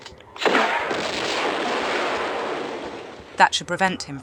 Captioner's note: pew pew; big badaboom